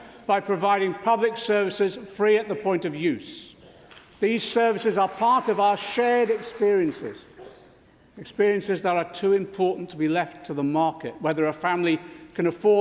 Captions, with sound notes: Labour governments fought for and built providing free at the point of use the things that made life worth living. (Applause)